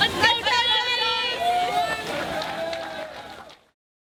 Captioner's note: cheering